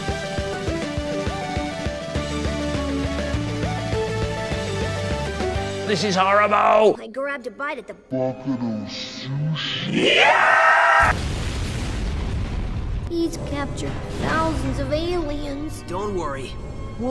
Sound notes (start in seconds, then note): 10.0 majestic screech; 11.0 explosion